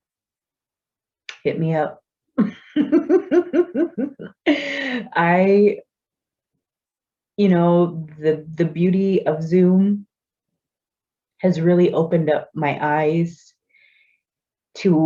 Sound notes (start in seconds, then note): 2.5 laughs